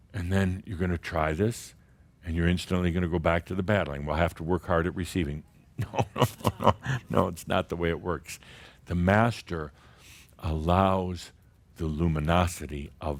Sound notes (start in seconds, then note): 5.8 Adamus chuckles